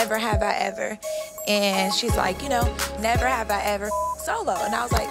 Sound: beep

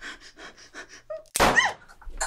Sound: gun shot

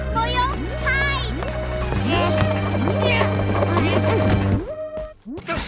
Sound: grunting

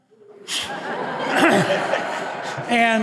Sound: audience laughter

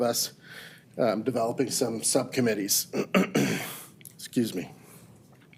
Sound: clears throat

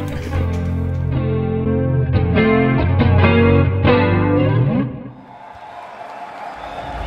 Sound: gentle guitar music; crowd cheers

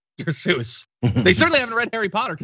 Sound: laugh

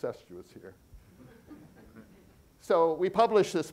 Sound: audience chuckling

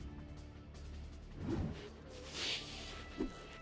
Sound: inhainhales

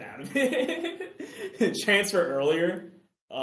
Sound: laughs

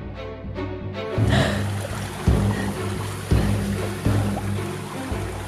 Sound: gasping

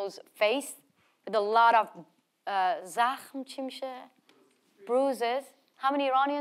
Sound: speaks in foreign language

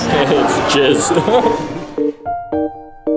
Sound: laughing; playful music

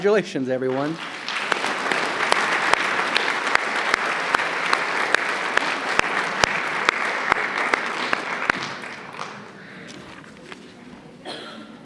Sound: applause

